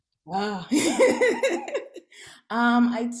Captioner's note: laughs